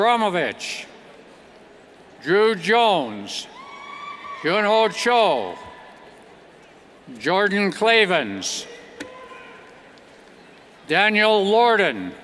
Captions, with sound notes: Drew Jones, Hyun Oh Cho, (cheers) Jordan Klavans, Daniel Lordan,